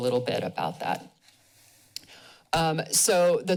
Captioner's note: pause